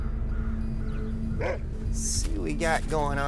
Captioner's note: eerie music plays; dog barks